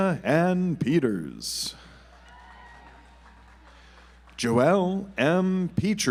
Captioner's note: audience applauds